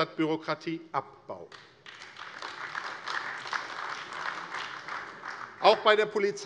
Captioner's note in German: Beifall AfD